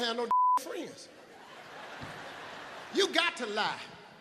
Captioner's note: beep; audience laughs